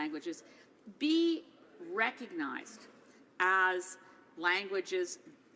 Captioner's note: speaking French